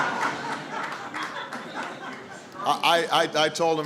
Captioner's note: laughter